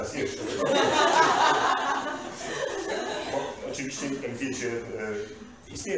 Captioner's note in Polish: śmiech z sali